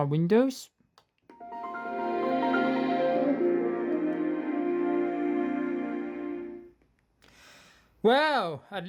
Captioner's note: start windows sound